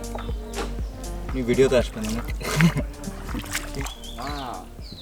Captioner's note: laughs